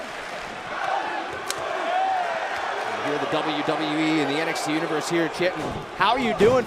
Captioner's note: fans chanting